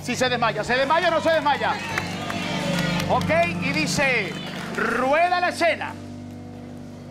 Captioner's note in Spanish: Gritos